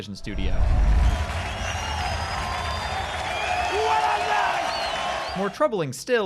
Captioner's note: loud cheering